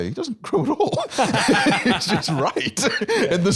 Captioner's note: laughing